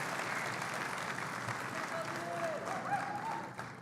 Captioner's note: audience members shout